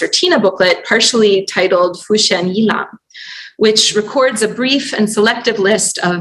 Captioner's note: non-english